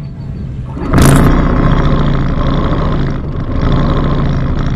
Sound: boat engine roaring

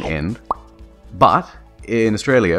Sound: pop

